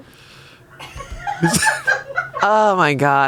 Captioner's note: crew laughs